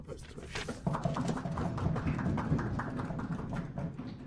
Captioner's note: applause